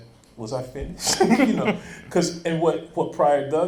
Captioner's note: laughing